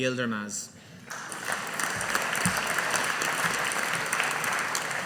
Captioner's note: audience applauding